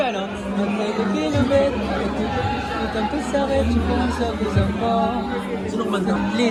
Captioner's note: hums random song